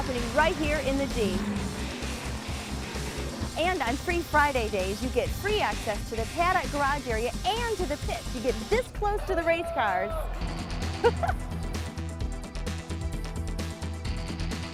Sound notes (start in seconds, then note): 9.3 racer yells; 10.8 laughs